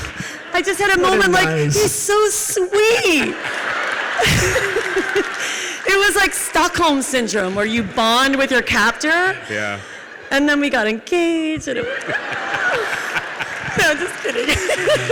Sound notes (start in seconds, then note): 3.4 audience laughs and applauds; 11.1 audience laughs and applauds